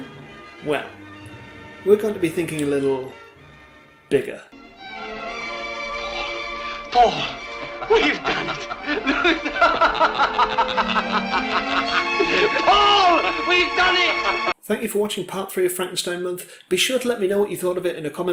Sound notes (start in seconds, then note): 7.4 laughter